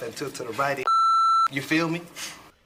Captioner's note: beep